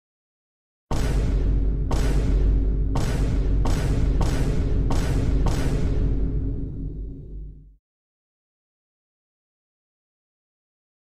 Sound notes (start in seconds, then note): 0.9 dramatic impact sound; 4.7 more dramatic impact sound